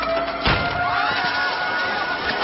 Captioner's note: all exclaiming fearfully